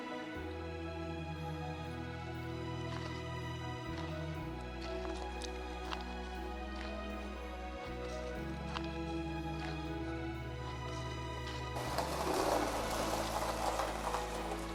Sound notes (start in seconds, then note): 0.1 footsteps tapping; 0.1 gentle music continues; 9.2 gentle music continues; 10.6 gravel crunching